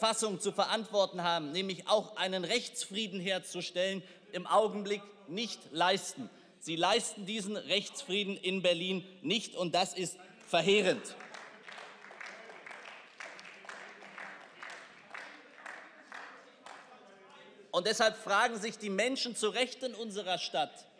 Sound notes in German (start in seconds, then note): 10.4 Beifall